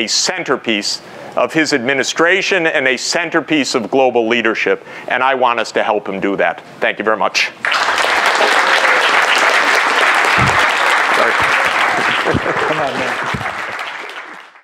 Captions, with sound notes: centerpiece of his administration and a centerpiece of global leadership. And I want us to help him do that. Thank you very much. [APPLAUSE]